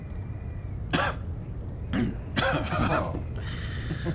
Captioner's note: coughing